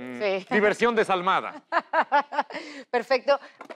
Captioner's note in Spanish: Ríe